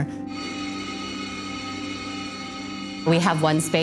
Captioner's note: air hissing